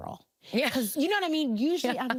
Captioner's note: laughing